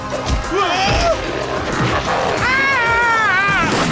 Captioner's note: yelling